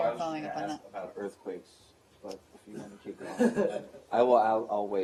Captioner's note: laughter